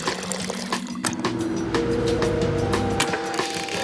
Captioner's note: coffee pouring; fan whirring; buttons clicking